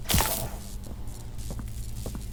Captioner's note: crashing